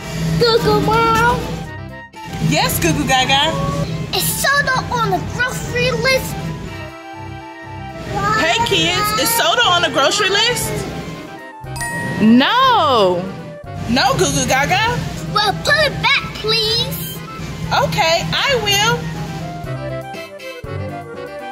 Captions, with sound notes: - Goo Goo Mom. - Yes Goo Goo Gaga? - Is soda on the grocery list? - Hey kids, is soda on the grocery list? (chiming) No. No Goo Goo Gaga. - Well put it back, please. - Okay, I will. (upbeat music)